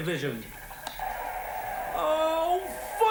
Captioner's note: television audience cheers